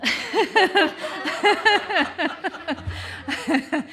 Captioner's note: laughter